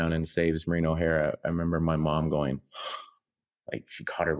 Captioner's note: gasps